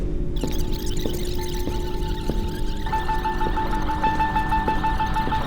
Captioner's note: footsteps, music rewinding